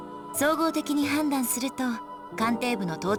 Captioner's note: none